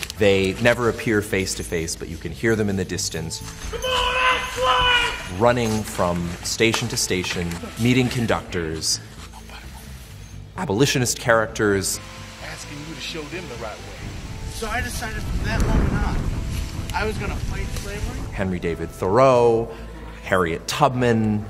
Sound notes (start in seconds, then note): 3.7 loud Screaming Man; 9.5 quiet Voice